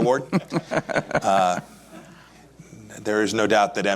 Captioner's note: laughs